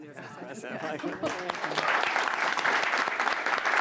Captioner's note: applause